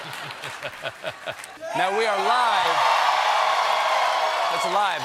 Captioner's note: laughter; cheers and applause